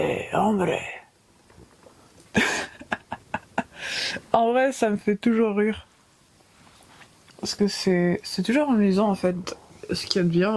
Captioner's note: laughs